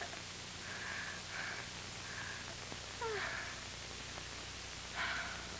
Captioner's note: jill's rhythmic gasping is audible through ceiling